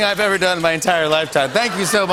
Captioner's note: laughter